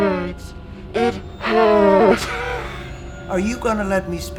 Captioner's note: laughing